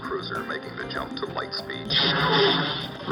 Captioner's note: lasers shooting